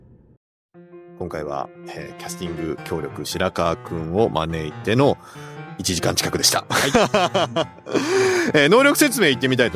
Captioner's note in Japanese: 笑い